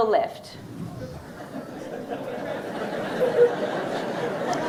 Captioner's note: audience laughing